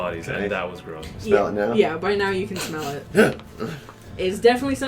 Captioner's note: sniffs twice, then audibly recoils